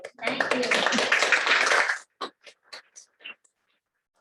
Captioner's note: applause